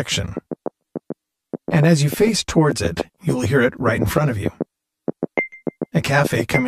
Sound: pinging sound

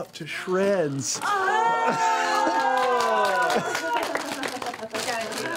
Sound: exclamations

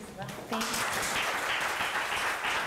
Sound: applause

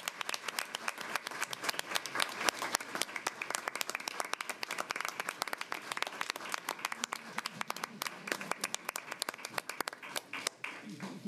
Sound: applause

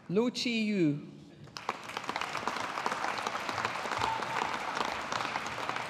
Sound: audience applauding

